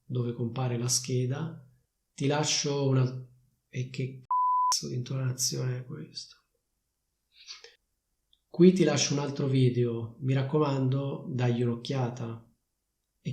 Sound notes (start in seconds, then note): 4.3 beep